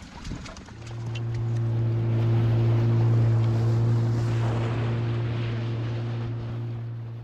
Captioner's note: boat engine sound